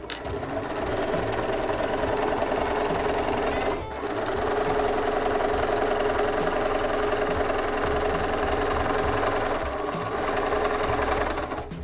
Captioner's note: sewing